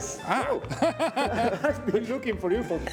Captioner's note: laughter